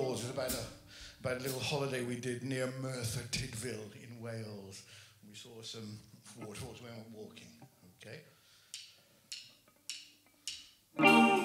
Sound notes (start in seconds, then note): 9.2 drumsticks clacking; 10.9 guitar & drums playing